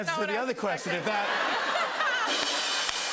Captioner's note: laughter; rim shot